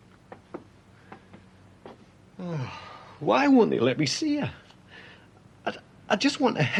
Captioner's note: heavy sighing